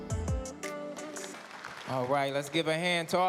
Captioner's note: applause